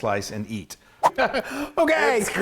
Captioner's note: air swooshes